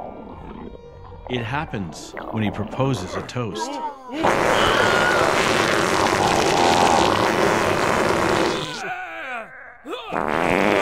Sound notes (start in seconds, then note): 5.3 grunting; 9.2 groaning